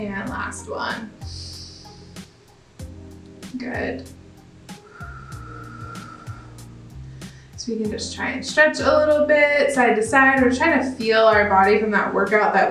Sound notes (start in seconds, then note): 2.0 inhales; 4.7 exhales